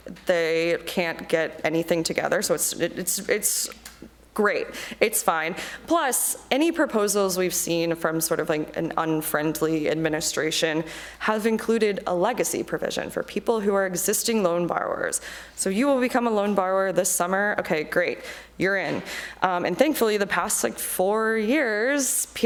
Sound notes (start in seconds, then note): none